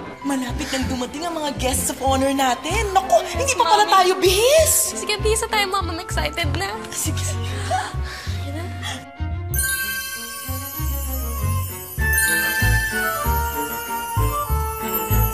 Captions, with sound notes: Our guests of honor are about to arrive. Oh, my, we aren't dressed yet. Okay, let's get dressed, Mom. I'm really excited. -Okay, okay. [giggles] -Let's do this. [tinkling] [tinkling]